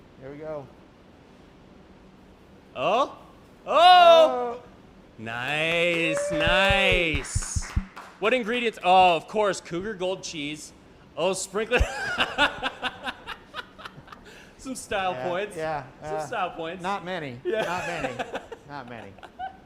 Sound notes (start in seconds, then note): 11.7 laughter